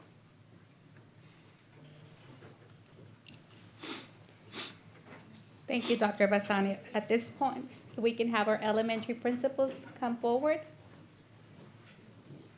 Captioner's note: snorts